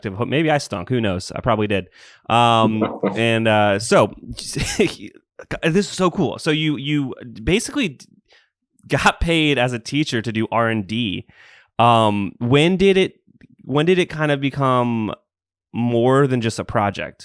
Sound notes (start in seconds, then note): 2.6 laughs